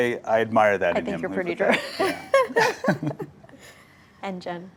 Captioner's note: laughs